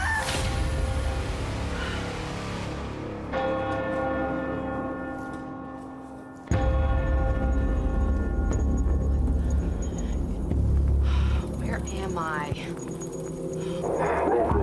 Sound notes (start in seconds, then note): 3.1 church bell rings